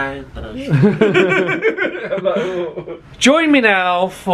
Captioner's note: both laughing